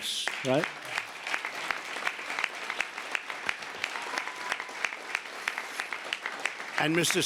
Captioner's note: applause